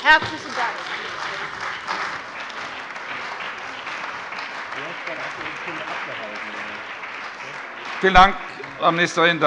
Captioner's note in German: Beifall bei dem BÜNDNIS 90/DIE GRÜNEN und der CDU